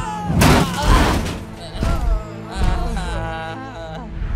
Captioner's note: both groaning